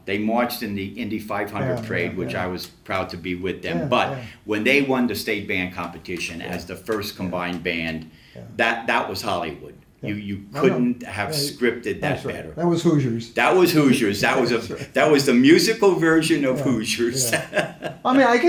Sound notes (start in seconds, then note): 16.6 laughs